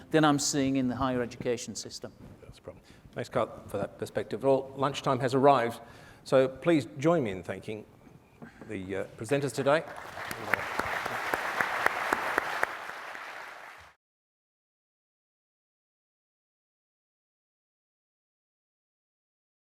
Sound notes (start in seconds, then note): 9.6 audience applauds